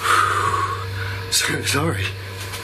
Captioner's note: exhales